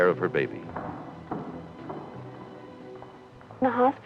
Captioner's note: descending footsteps